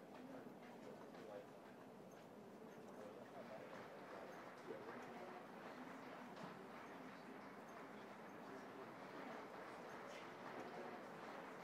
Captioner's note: cheering